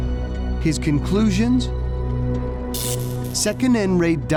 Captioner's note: electric sparking